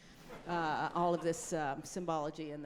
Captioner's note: audience laughing